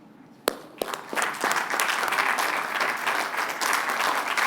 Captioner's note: applause